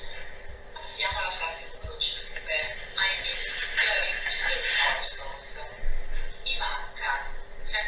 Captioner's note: speaks Italian